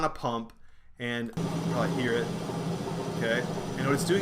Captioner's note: hissing